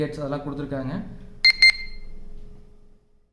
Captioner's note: loud beep